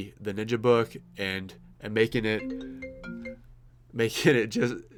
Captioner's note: phone ringing